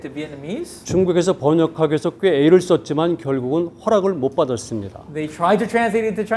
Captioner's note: speaking in Korean